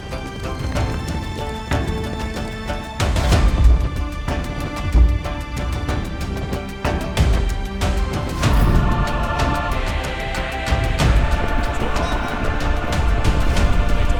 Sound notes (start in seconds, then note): 3.5 thunderous footsteps; 9.4 chanting